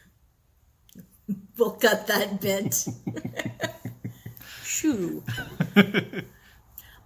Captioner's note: laughter off-screen